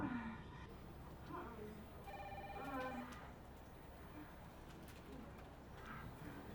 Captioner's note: Lovell moans loudly in the distance